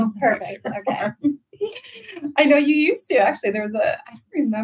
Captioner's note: laughs